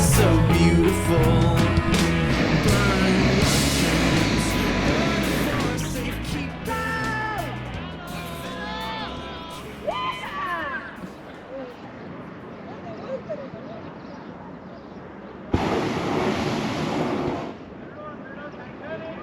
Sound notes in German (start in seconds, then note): 8.3 Leute rufen; 15.5 Geräusche des Heißluftballons